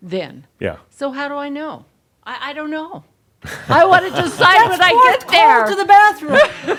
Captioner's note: chuckles; more chuckles